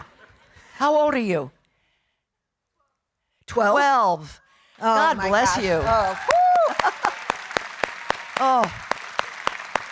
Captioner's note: audience applauding